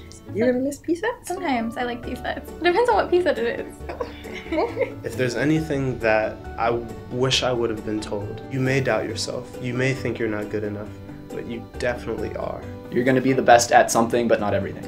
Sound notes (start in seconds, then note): 3.6 laugh